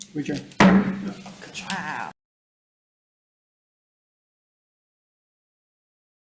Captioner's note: gavel banging